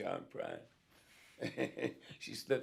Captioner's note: laughs